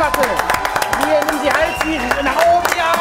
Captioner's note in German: Jubel